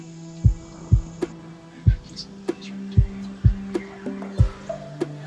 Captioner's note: whispering